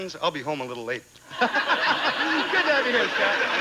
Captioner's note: audience laughing